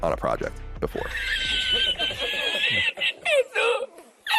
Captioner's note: podcasters wheezing